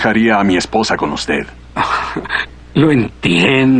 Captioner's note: chuckles